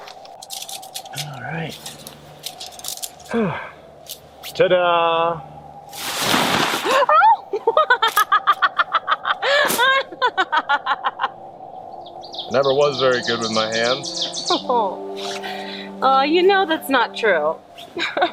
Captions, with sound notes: - All right. (sighs) Ta da! - Oh (laughs)! - Never was very good with my hands. - Oh, aw you know that's not true (chuckles).